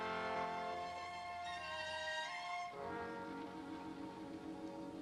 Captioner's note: sizzling